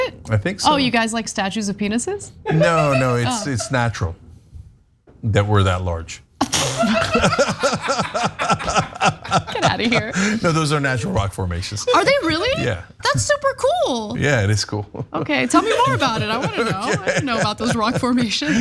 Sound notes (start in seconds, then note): 6.5 laugh